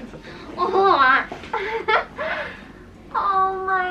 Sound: laughing

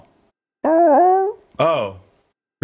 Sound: squawks

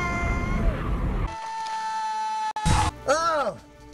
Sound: more yelling from the man in a cat suit

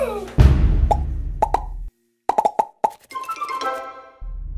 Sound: gasps; letters popping

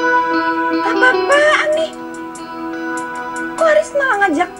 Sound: non-english speech

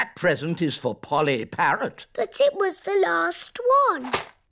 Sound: none

